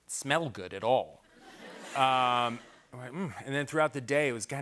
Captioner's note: laughter